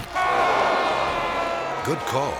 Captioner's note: audience exclaiming; judge yelling